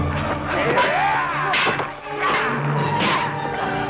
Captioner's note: raider growls